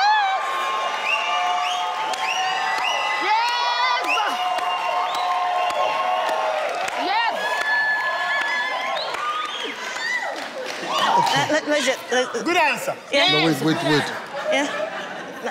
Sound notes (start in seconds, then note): 1.2 cheers, whistles; 14.0 laughs